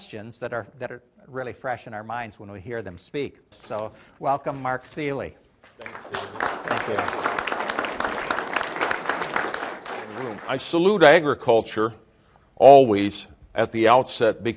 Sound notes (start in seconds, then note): 10.5 applause